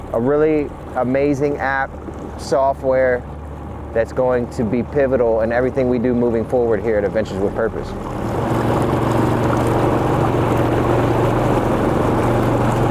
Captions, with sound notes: A really amazing app software that's going to be pivotal in everything we do moving forward here at Adventures with Purpose. (engine purring)